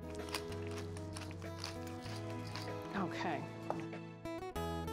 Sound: pepper grinding

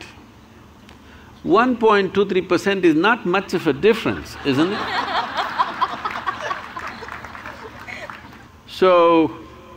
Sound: laughter

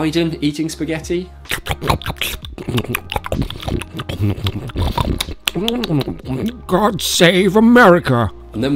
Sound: awful scoffing noises

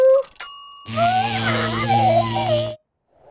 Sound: muffled scream

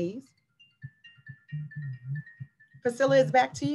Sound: cellphone ringing

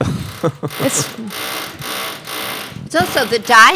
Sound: object cackling

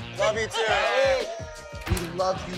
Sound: cheers

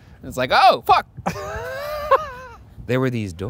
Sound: laughing

